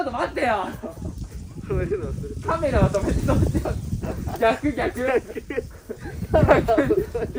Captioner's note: laughs